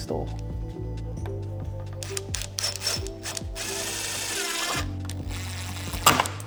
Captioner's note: drill whirring